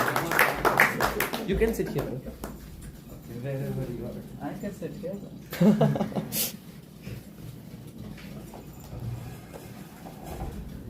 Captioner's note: applause; laughter